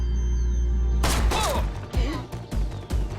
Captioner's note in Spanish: Disparo